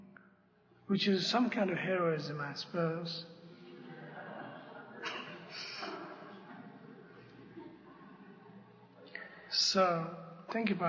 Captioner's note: laughter